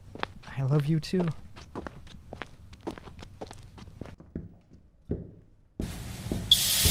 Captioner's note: footsteps; steam sizzling before fabric unfurls